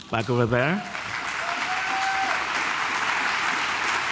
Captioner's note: applause